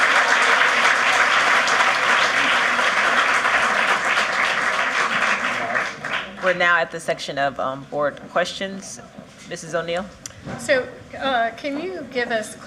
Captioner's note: cheers and applause